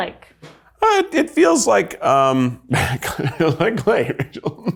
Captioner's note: chuckles